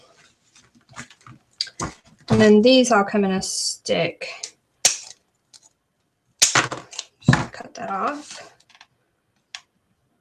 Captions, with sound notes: And then these all come in a stick, (wire cutting) (thud) cut that off.